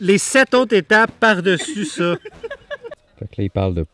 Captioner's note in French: rires